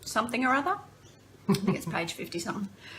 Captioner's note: laughter